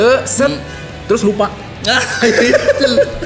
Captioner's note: laugh